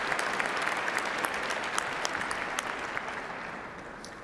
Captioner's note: applause